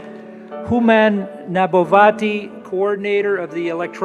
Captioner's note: applause